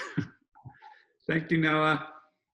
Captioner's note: chuckles